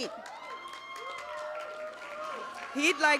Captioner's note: cheers, applause